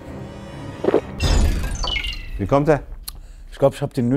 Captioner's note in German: Gluckern; Schlucken, abfallende Klänge